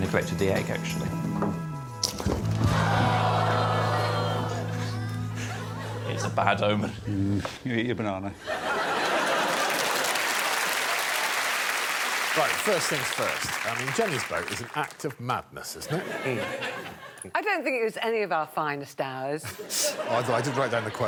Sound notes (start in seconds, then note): 2.6 audience groaning; 8.4 laughing and applause